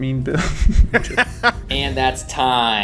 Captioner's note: laughs